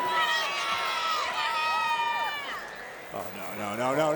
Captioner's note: crowd clamoring